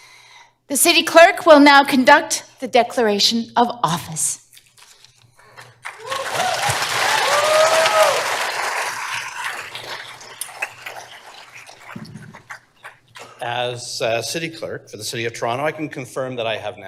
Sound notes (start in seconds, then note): 5.5 applause